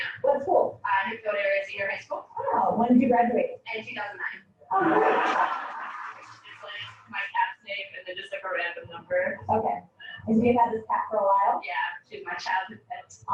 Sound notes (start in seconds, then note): 4.7 laughing